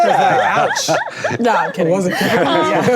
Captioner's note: laughing